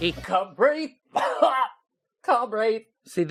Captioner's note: cough